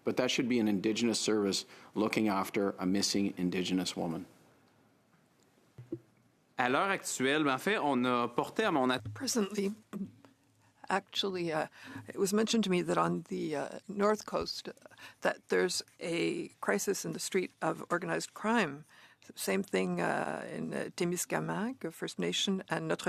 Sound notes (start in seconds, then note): 12.7 speaking French